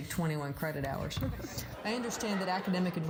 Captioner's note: laughter